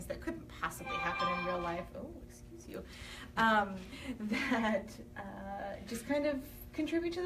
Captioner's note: phone notification chimes